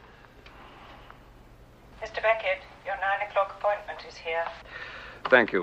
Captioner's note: woman On Intercom